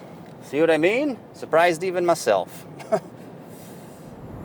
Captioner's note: chuckles